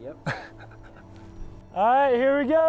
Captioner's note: chuckling